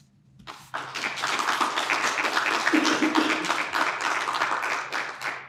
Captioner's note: audience applauding